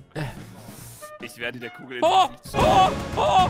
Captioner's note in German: ooh